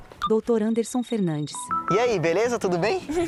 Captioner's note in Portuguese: Celular tocando